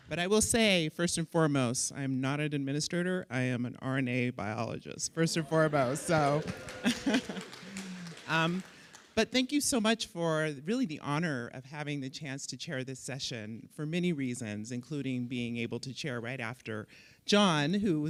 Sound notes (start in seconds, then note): 5.4 audience cheering; 5.5 audience applauding